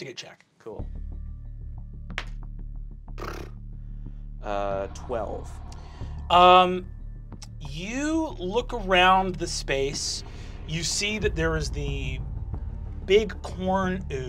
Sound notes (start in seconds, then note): 0.8 ominous music; 3.1 buzzes lips